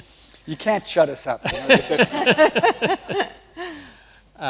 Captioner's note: laughter